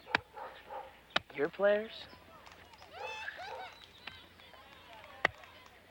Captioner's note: child laughing